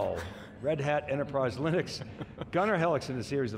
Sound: chuckling

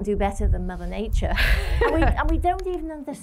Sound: laughter

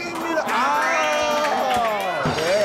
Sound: Team old is cheering

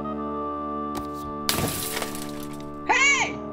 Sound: window breaking

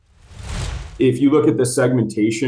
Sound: whooshing

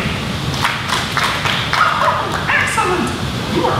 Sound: clapping

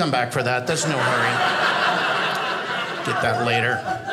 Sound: audience laughing

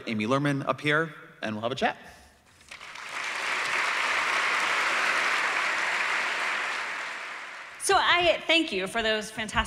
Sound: applause

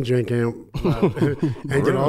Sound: laughs

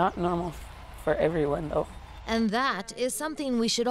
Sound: cheers and Applause

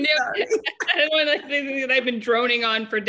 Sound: laughter

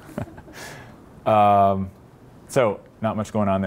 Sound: laughs

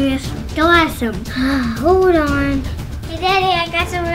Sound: sighs

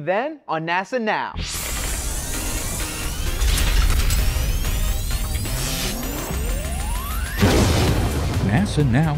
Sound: sound Effects

